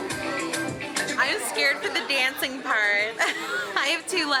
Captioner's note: laughs